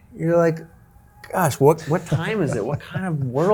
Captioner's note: laughing